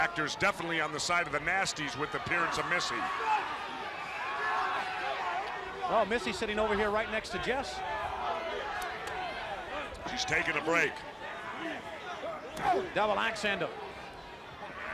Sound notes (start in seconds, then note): 9.7 crowd chatter